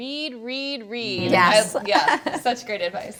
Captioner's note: laughs